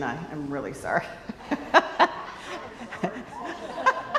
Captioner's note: laughs